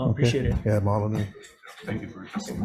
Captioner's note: speaking Hawaiian